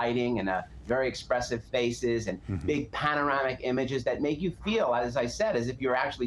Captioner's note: none